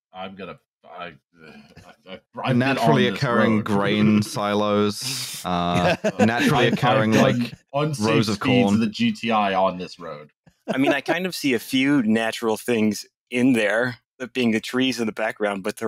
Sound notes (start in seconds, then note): 5.4 chuckles